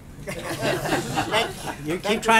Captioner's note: laughter